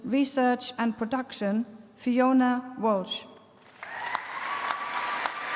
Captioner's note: applause